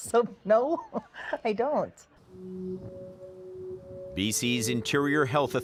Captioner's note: laughs